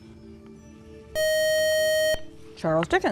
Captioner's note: buzzer